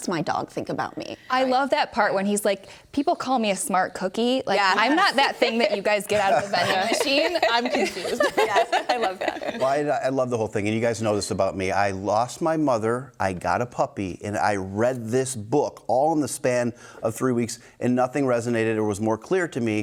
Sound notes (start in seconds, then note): 4.6 hosts laughing